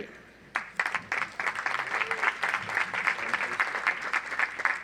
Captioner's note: audience applauds